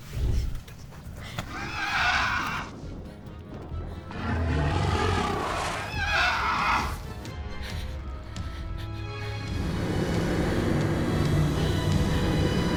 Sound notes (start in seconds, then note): 2.3 Connie sobs; 2.3 dragon roars